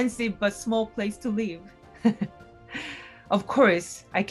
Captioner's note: laughs